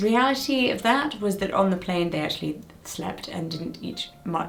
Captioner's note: none